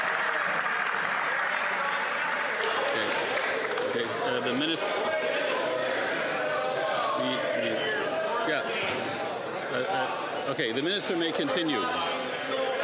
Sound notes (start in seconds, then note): 0.0 cheers & Applause